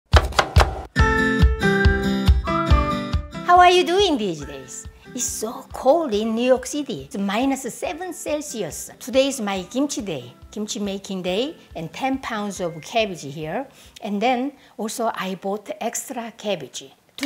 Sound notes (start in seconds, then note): 0.1 cutting board clacks; 0.8 cheery music